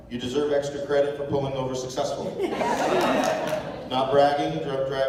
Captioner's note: laughter